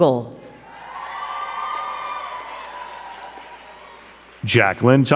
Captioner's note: crowd cheering and clapping